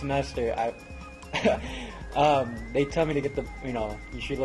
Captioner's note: laugh